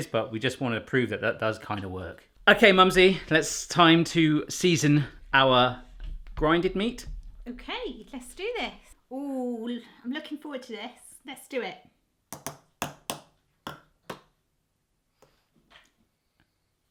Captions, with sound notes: but we just want to prove that it does kind of work. Okay Mumsy, it's time to season our grind-ed meat. - Okay, let's do this. I'm looking forward to this, let's do it. (tapping in tune)